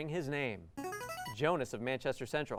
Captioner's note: buzzer